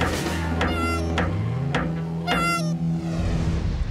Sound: laughing; clown squeaking

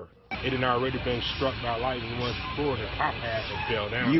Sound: sound of sirens

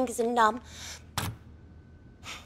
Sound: thud

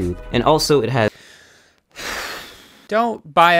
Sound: inhales, sighs

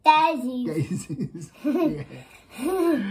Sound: laughs

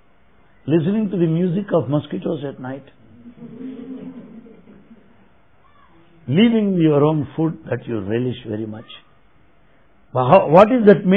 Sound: laughter

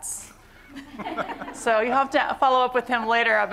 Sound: laughter

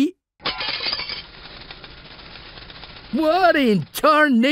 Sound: glass crashing

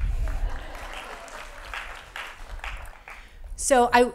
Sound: laughing

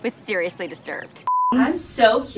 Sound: beep

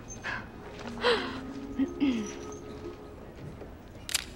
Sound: MJ laughs, clears throat

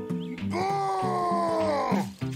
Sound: wretched groan

